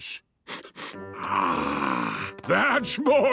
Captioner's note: sniffs